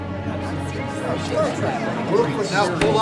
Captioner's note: chattering